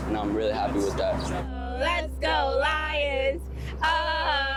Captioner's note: chanting